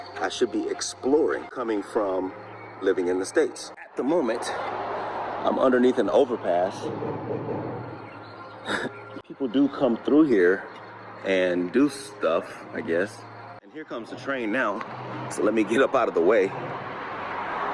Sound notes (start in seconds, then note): 6.8 rumble